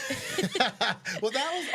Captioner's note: both laughing